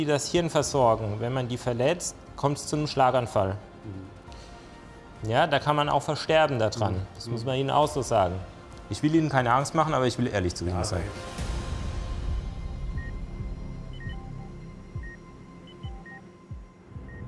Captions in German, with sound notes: Wenn man die verletzt, kommt's zum Schlaganfall. Mhm. Da kann man auch versterben daran. Das muss man Ihnen sagen. Ich will Ihnen keine Angst machen, aber ehrlich sein. (Spannungsvolle Musik) (Pieptöne)